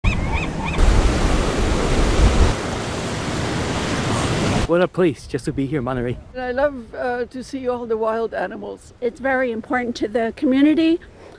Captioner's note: nats best nats of the bay, water, bird etc